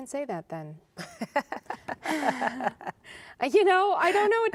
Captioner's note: laughter